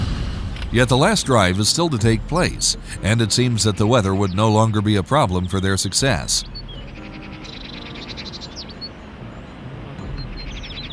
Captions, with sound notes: Yet the last drive is still to take place and it seems that the weather would no longer be a problem for their success. [piano music] [birds calling]